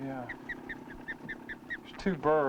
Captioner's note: osprey chirping